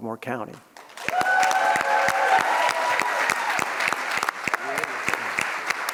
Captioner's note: audience cheers and applauds